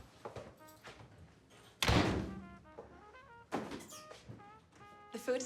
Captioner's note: door closes